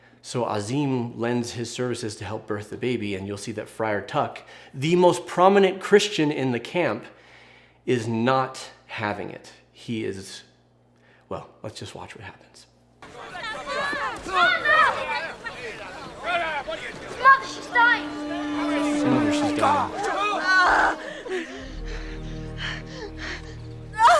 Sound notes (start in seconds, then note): 13.1 crowd yells; 20.0 Fanny moans; 24.0 Fanny gasps